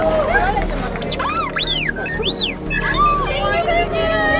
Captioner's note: delightfully yelling; R2-D2 sounds